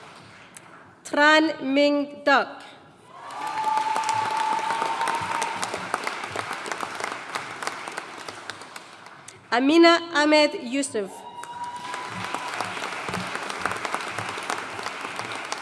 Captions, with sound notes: Tran Minh Duc. (AUDIENCE CHEERING AND APPLAUDING) Amina Ahmed Yusuf. (AUDIENCE CHEERING AND APPLAUDING)